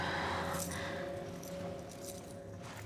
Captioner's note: exhales